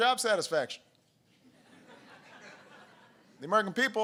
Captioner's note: laughter